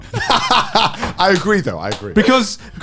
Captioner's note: laughing